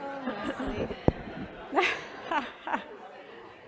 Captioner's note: laugh